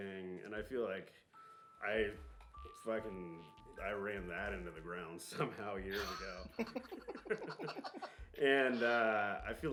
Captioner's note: laughing